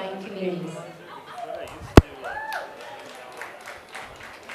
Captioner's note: cheers and applause